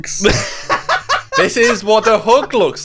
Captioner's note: laughing